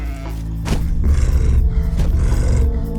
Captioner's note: creature growling